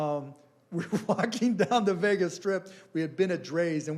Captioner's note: laughing